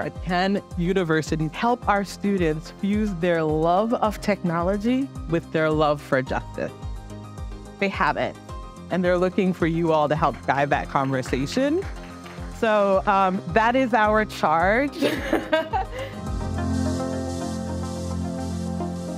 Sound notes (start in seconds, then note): 15.0 speaker laughs